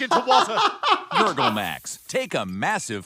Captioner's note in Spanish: riendo